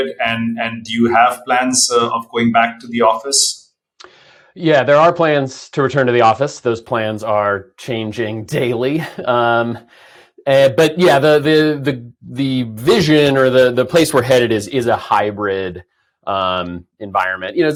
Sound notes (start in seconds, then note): 8.9 chuckles